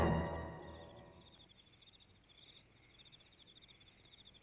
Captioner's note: crickets chirping